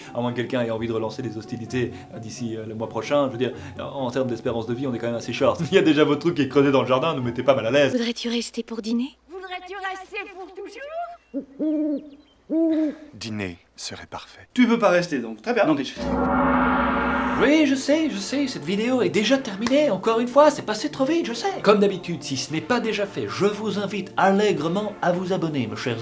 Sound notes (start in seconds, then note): 11.1 owl hoots